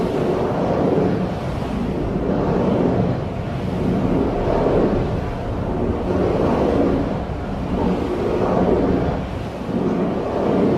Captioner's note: thunder rolls; portal swirl open